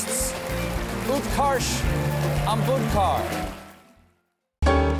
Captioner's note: band playing; cheers and applause